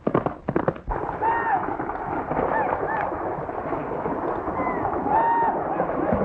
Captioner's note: whistling and corralling